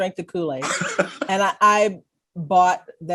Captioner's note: laughs